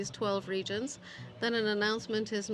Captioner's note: speaking French